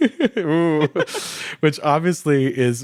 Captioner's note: chuckles